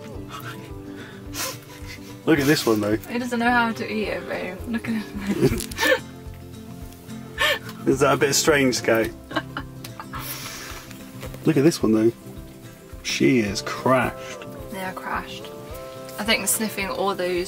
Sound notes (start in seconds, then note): 5.1 laughing